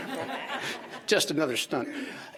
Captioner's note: audience laughing